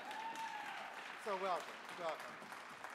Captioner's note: audience clapping